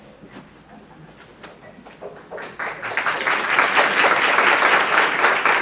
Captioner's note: applause